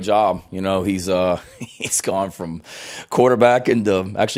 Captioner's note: laughs